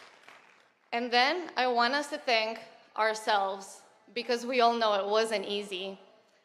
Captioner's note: applause